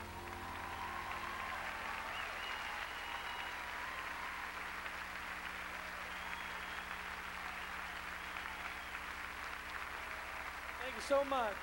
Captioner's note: crowd cheering